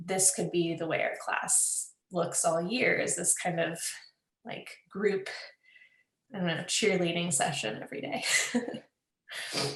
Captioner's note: laughs